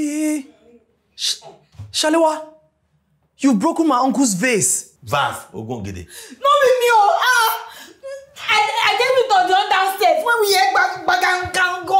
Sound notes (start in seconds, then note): 5.2 speaks Benin